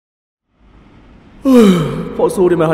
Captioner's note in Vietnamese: ngáp*~